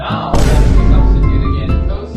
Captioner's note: The Rock Boom